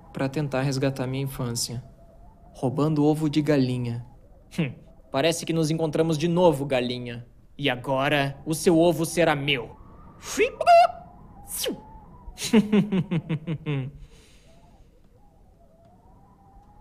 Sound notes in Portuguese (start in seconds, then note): 11.4 ziium